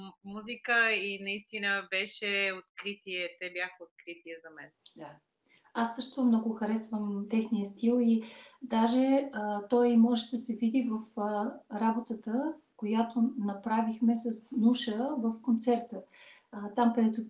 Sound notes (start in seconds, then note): 4.7 foreign Language followed by English Interpreter